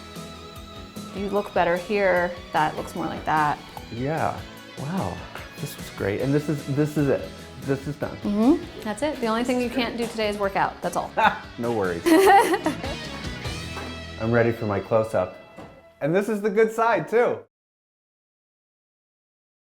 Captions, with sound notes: - You look better here. That looks more like that. - Yeah, wow, this is great, and this is it, this is done. - That's it. The only thing you can't do today is workout. That's all. - (laughs) No worries. (woman laughs)